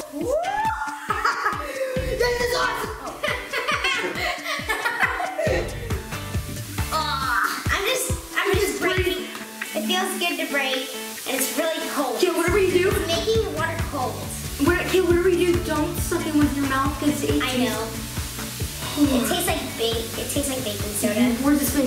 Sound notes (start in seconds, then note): 0.2 laughs; 3.2 laughter; 7.3 gags